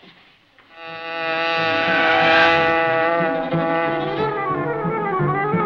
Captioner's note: hornet buzzing; frantic music